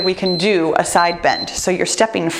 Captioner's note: timer beeps